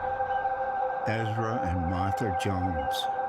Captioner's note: birds chirping